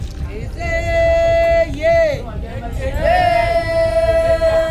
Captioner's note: women chanting